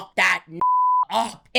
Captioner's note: beep